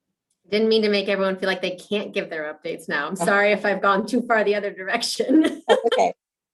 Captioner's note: laughs